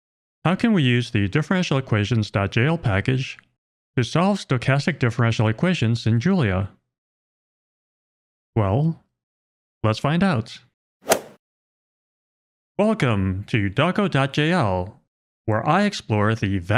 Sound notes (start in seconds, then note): 11.0 golf ball hit sound